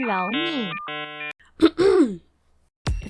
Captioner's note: ahem